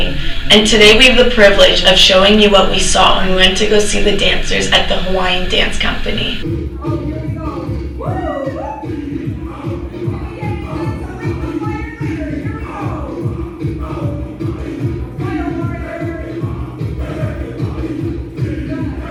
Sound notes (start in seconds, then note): 8.0 audience cheers; 8.9 drum music